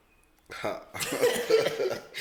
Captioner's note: laughs